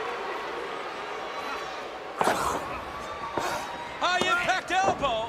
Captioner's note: crowd cheering